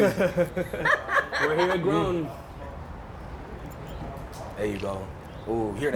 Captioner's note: laughs